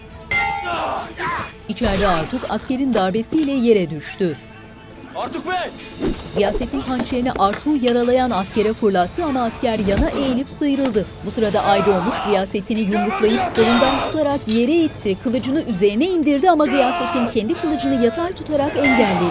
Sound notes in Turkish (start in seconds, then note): 0.2 Dövüş sesleri; 11.5 Bağırma sesi; 13.5 Kılıç sesi; 16.5 Bağırma sesi; 18.7 Dövüş sesleri